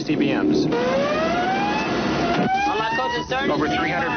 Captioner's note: siren blaring